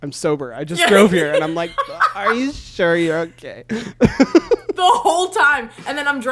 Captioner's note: laughs